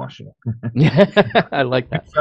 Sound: chuckling

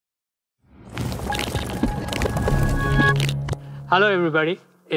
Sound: transition sound effect

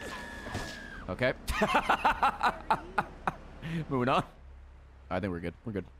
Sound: laughs

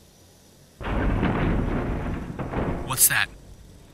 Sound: banging noise

